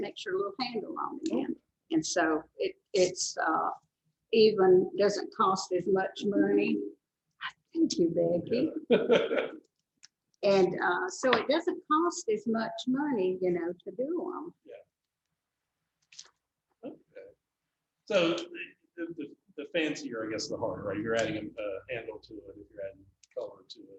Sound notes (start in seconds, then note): 8.7 laughs